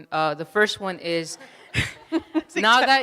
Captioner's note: audience laughs